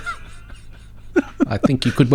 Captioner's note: laughing